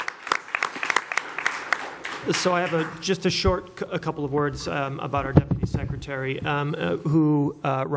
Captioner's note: applause